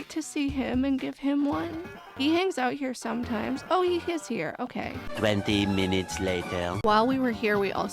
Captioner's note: french accented male narrator voice